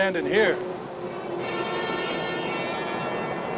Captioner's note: car approaching